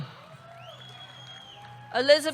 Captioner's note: audience cheering; audience whistles